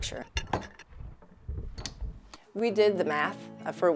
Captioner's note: tool clattering